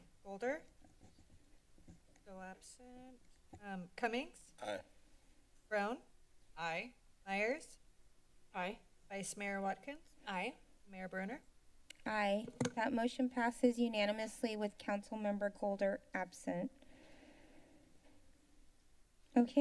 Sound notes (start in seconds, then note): 1.0 silence